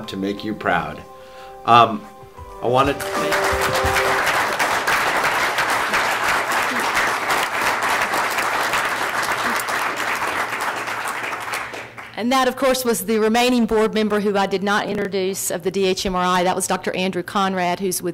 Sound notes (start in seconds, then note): 3.3 audience applauds